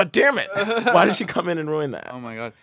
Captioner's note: laughs